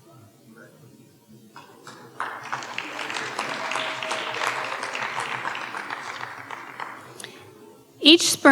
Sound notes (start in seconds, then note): 1.6 audience cheering and applauding